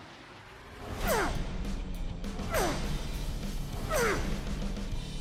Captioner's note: grunting